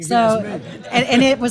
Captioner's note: laugh